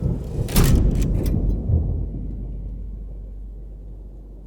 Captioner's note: thunder crashing